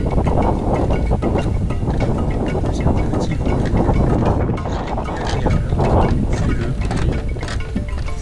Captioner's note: wind